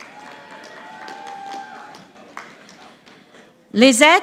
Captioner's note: audience applauding